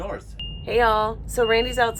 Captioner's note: peeping